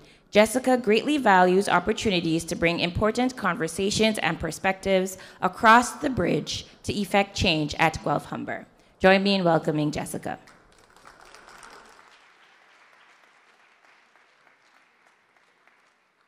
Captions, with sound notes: Jessica greatly values opportunities to bring important conversations and perspectives across the bridge to effect change at Guelph-Humber. Join me in welcoming Jessica. [audience applause]